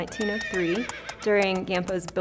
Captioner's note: horse trots and neighs